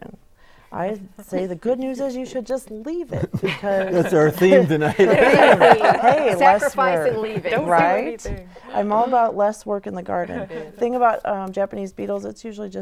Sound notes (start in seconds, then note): 8.3 laughing